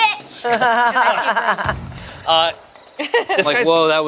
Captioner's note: laughs